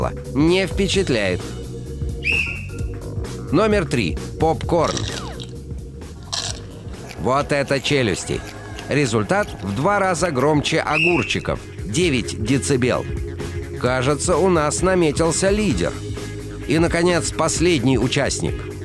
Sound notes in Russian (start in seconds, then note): 2.2 свисток свистит